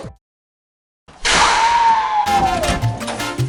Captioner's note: screaming; salsa music